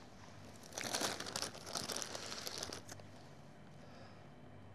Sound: packet rustling

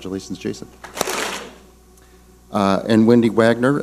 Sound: clap smack

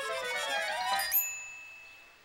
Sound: ding

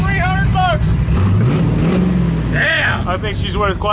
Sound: engine revving

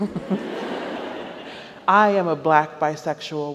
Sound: audience laughs

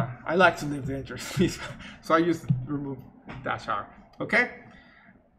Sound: laughs

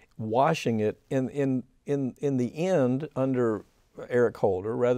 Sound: none

